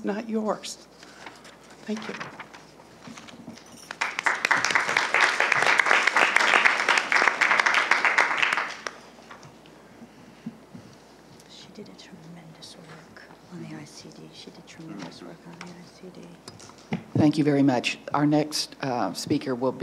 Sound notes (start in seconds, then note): 3.8 applause